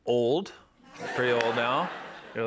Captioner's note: laughter